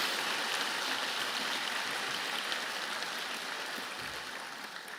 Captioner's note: applause